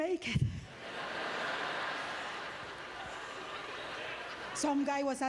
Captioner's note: audience laughter